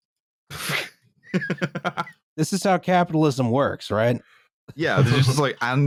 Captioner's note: laughs, a little unhinged